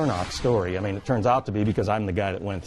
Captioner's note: scene whooshing